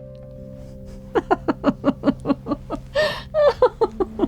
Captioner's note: laughing